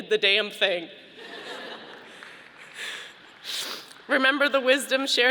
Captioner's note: audience laughing